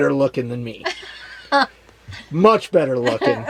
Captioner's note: laughs